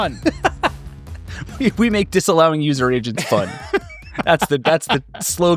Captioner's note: laughing